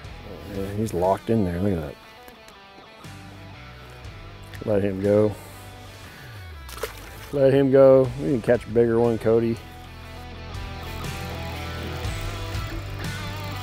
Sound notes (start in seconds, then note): 6.5 water splashes; 10.5 slow guitar music